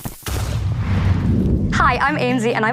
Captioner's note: faint explosion